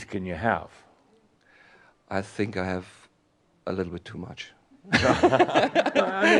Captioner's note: laughter